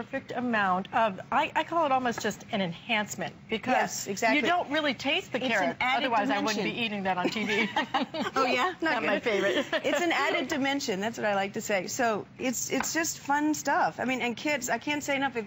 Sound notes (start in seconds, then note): 7.2 laughter